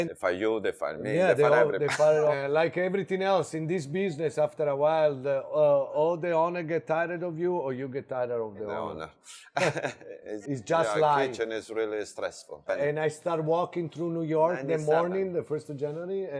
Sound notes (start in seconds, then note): 1.6 chuckles; 9.5 laughs